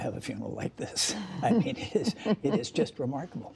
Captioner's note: laughter